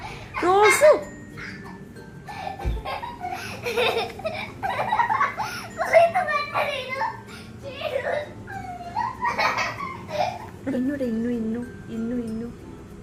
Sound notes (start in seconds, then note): 2.2 laughing